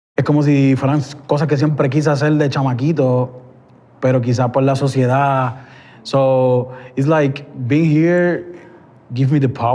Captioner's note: speaking Spanish